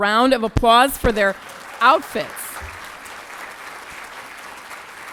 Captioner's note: applause